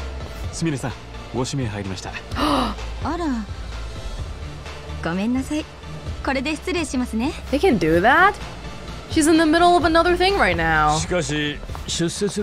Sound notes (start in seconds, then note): 2.4 gasps